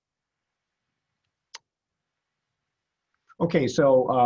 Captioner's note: mouse clicks